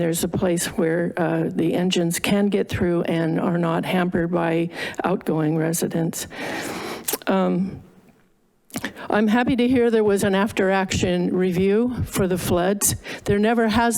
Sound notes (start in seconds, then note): 6.3 inhales; 7.0 tongue clicks